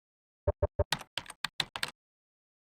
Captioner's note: typing sounds